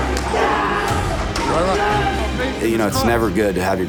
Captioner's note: yelling